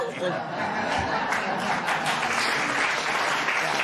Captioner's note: laughter and applause